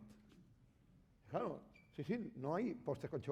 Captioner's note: speaking spanish